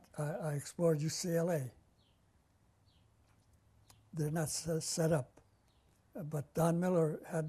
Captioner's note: pauses for 3 seconds